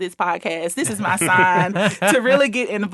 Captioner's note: laughing